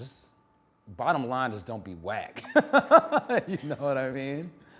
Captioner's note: laughing